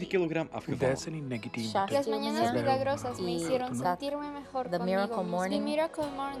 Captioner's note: speaking in foreign language